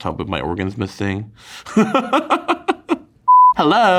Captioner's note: television beeps; Kim laughs